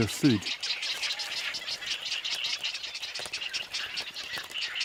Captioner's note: chicks chattering